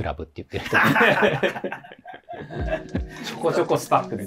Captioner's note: laughing